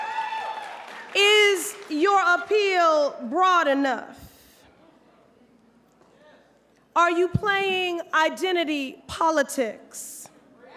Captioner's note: applause